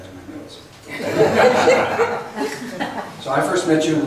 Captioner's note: laughs